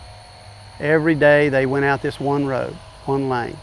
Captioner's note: background machinery sounds